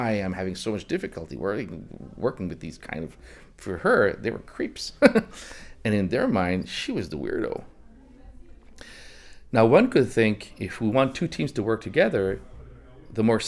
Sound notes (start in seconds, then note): 4.9 laughs